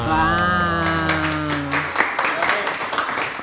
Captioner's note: clapping; chime sound